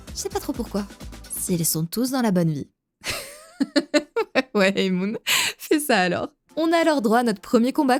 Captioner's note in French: rire